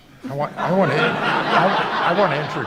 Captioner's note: crowd laughs